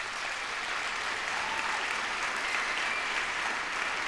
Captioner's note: applause